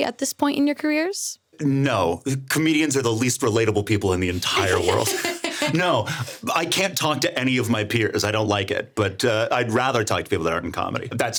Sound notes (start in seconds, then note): 4.4 everyone laughing